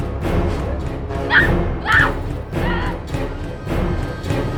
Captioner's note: Danielle screams; ominous music intensifies